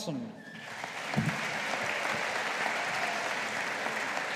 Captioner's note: audience applauding